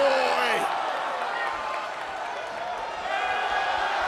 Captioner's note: crowd cheers